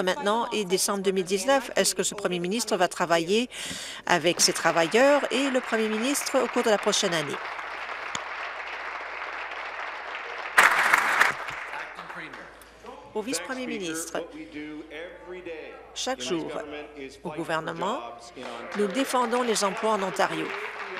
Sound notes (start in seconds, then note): 6.4 applause